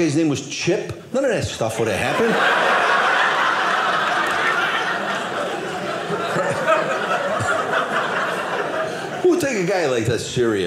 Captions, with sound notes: was Chip, none of that stuff would have happened. (audience laughing) Who'll take a guy like that serious?